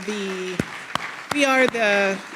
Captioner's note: people clapping